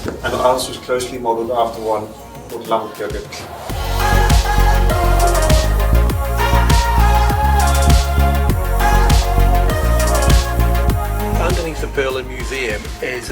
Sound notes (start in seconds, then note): 3.5 speaking Icelandic; 6.5 upbeat music continues